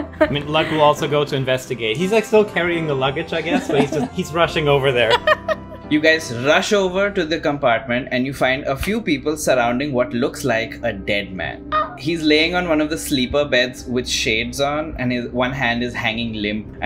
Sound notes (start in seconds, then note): 5.0 laughter; 11.6 gasps